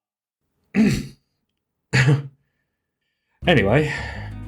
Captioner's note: ahem